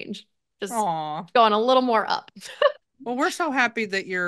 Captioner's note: laughs